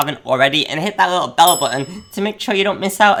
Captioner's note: bell chimes